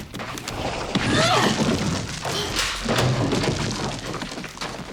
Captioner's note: Yvonne grunting